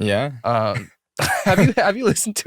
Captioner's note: laughter